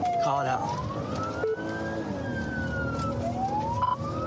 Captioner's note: siren blares